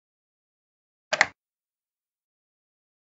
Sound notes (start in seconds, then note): 1.1 sound of lock